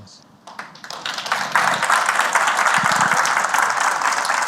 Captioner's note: applause